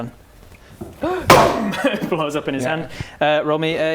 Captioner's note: gasp